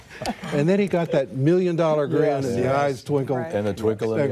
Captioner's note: laughter